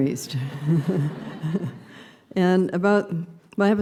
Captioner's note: laughter